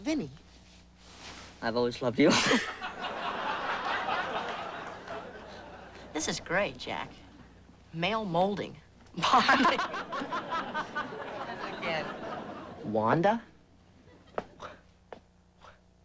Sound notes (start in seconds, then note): 2.3 laughter; 9.2 laughing